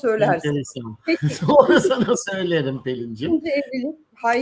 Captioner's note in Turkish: kahkaha